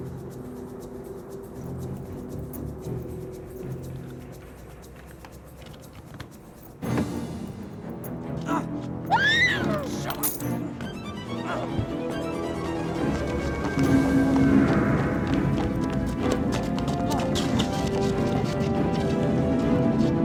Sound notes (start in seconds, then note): 1.6 suspenseful music continues; 6.6 dramatic music; 9.0 Brooke screams; 9.9 keys clatter; 11.7 dramatic music; 15.1 dramatic music continues; 15.1 footsteps tapping